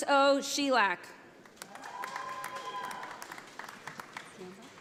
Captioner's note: audience applauding